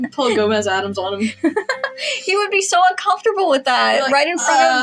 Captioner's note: laugh